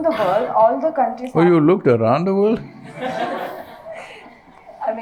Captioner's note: laughter